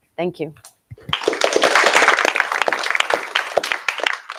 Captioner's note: applause